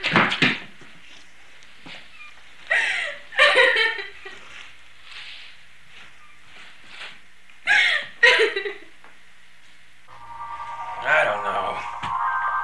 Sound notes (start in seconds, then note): 0.3 crying; 7.7 sobbing